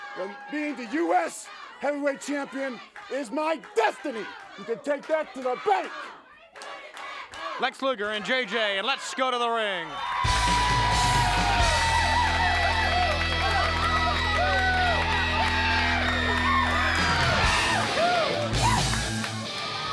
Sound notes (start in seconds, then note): 10.4 audience applauds; 17.1 upbeat music